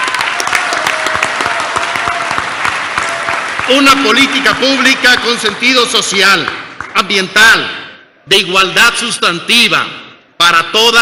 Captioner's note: applause